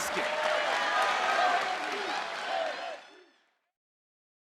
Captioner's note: crowd cheering